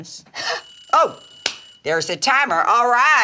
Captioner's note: timer ringing